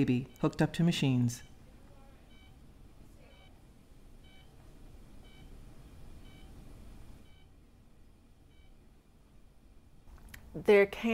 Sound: medical machines beeping

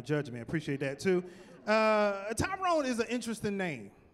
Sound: none

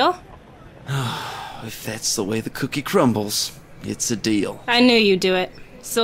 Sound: groans

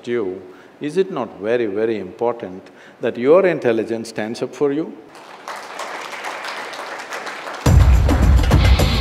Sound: applause

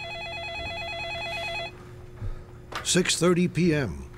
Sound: telephone ringing

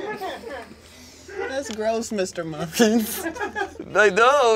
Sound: laughter

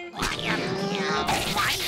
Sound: grunting

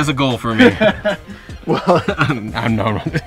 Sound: laughing

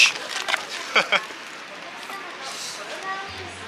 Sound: haha

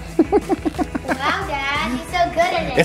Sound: laughing

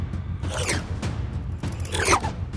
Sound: swoosh

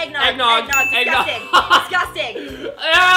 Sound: laughs

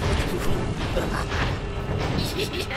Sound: evil laughter

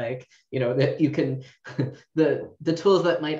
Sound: giggles

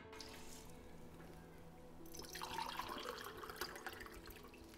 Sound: water pouring

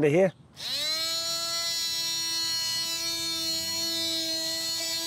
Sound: sanding

